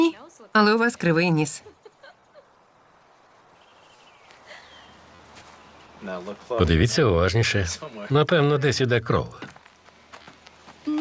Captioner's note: laughing